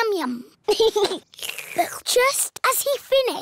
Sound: giggles; slurps

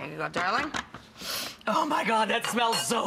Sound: inhales sharply

